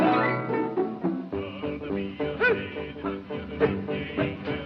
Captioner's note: men Chanting